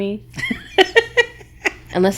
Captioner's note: laughing